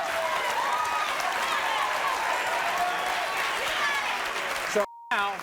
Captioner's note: audience cheers and applauds